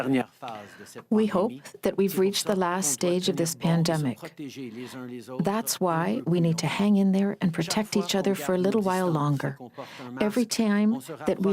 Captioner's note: speaking french